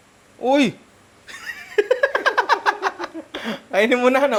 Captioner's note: laughter